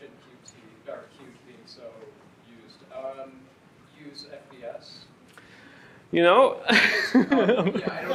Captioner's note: laughter